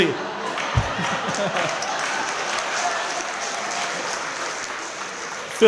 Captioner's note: crowd clapping & laughing